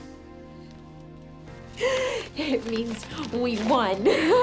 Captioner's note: gasps; laughing